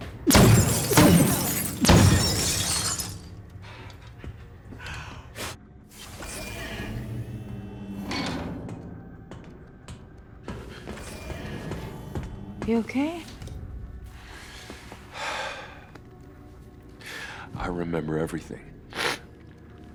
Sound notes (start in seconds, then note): 0.1 gunshots, clinks; 5.1 blows; 6.0 door opens; 15.1 sighs; 18.9 sniffles